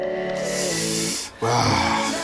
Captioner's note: painly noise